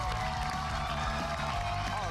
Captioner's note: cheers and applause